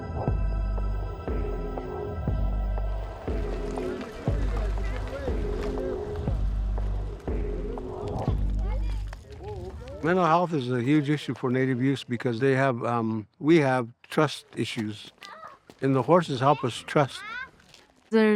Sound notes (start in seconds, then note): 0.0 suspenseful music continues; 5.2 people chattering